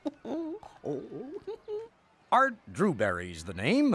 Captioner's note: laughing